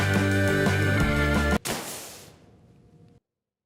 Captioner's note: sand falling